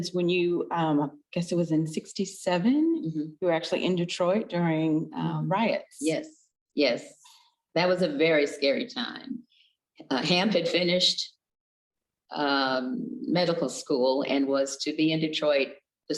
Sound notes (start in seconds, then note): none